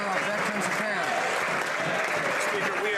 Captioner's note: some Applause